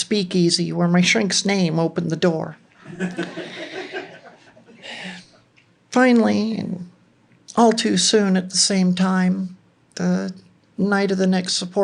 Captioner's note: laughter